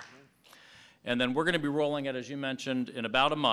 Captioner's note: applause